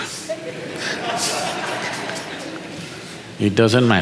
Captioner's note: audience laughs